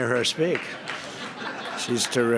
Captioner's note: laughter